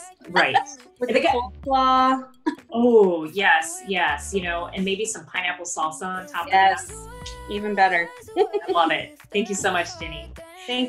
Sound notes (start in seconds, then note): 8.3 laughs softly